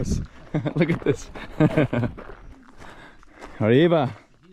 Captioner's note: laughing; speaking in foreign language